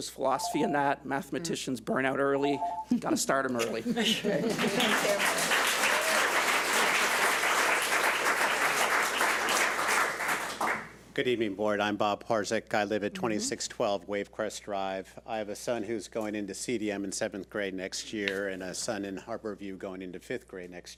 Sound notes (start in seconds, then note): 4.4 public applauding